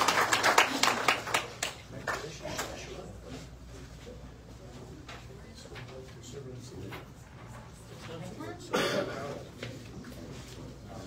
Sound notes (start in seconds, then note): 0.0 audience cheers and applauds; 2.3 indistinct chatter